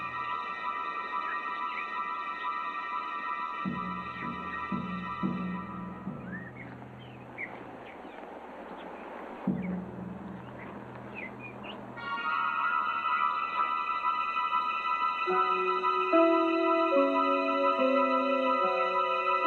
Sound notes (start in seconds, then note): 7.4 birds chirping; 11.9 dramatic music